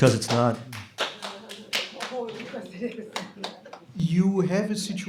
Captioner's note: scattered applause